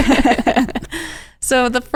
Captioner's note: laughing